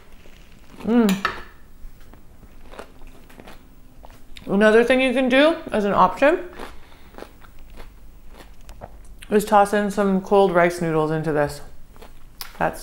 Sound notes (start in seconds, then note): 0.3 chewing; 8.2 chewing